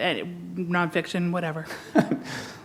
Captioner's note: chuckle